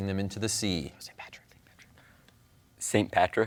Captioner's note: whispers